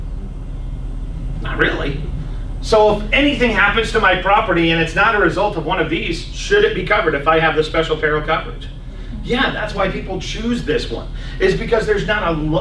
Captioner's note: coughs